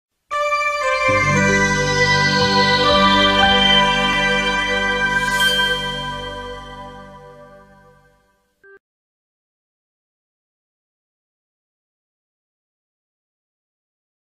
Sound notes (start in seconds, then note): 0.3 nostalgic music plays to the tune; 9.9 silence